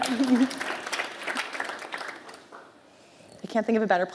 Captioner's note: applause